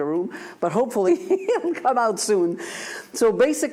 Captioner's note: laughs